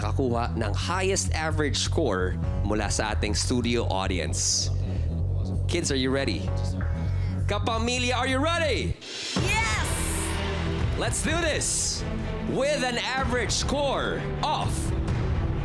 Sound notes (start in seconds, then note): 6.3 tense music playing; 9.4 crowd cheers